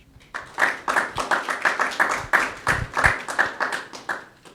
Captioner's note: audience clapping